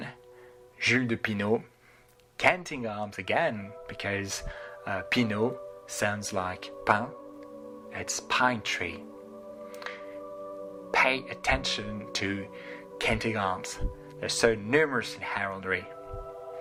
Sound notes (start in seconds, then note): 9.0 in french